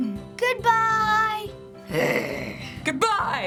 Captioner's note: growls